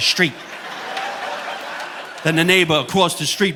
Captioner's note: audience laughing